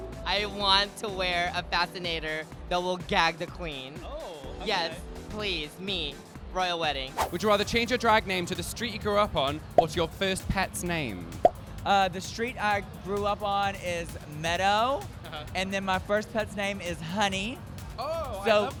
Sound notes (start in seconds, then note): none